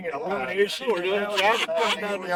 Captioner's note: laughing